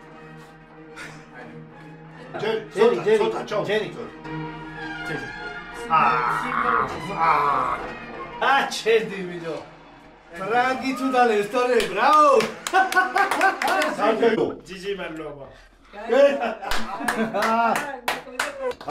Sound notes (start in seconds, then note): 3.1 applause